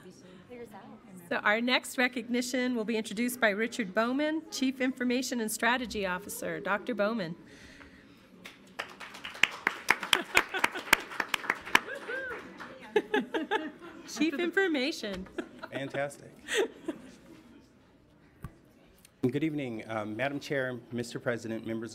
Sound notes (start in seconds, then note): 0.1 overlapping chattering; 8.4 audience applauds